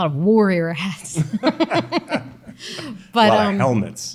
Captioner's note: both chuckling